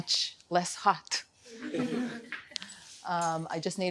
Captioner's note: laughter